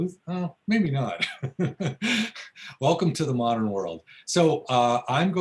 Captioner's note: laughs